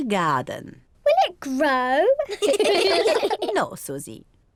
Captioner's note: all laugh